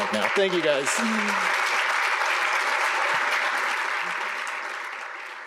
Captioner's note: applause